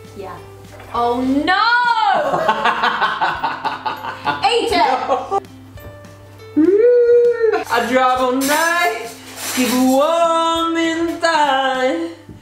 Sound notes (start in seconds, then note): 2.3 laughs